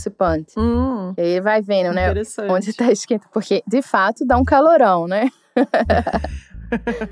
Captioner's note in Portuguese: risos